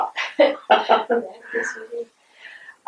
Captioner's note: laughter